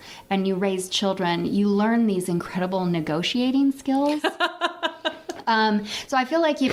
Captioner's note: laughs